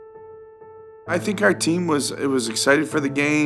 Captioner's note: voiceover